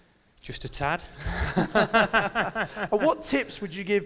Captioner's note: laughs